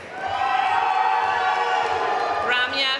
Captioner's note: audience cheering and applauding